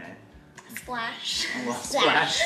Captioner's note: laughs